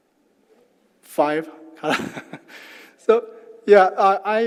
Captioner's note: laugh